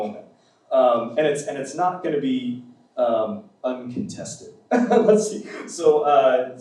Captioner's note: laughs